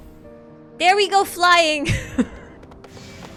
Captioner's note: laughs